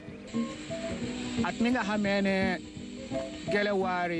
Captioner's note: foreign language